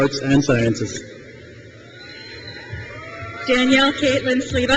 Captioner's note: crowd cheers